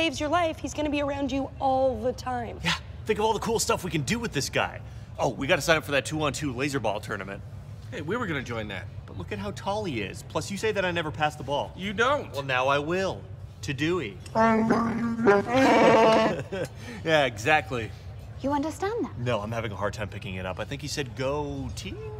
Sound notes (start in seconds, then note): 14.5 wookie roar